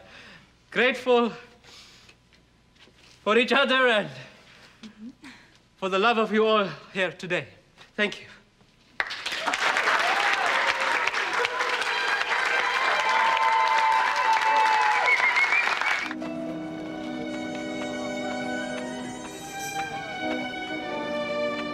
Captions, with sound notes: for each other and for the love of you all here today. Thank you. (applauding and cheering) (suspenseful orchestral music)